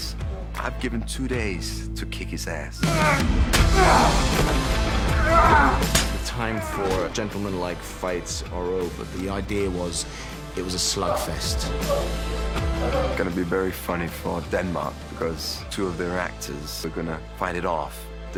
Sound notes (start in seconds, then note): 2.7 grunting